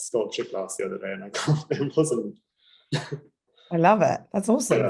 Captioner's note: laughing